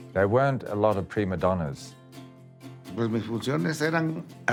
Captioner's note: in Spanish